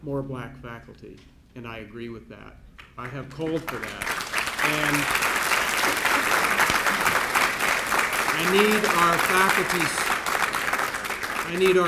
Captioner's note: applause, clapping